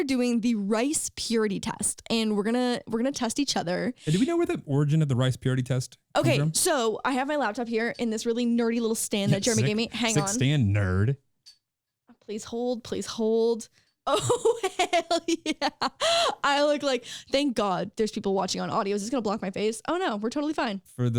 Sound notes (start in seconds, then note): 14.6 laughing